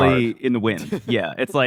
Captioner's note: laughs